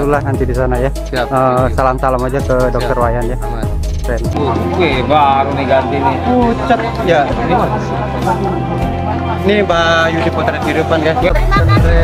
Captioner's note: laughs